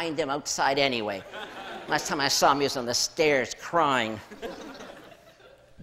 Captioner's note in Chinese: 笑聲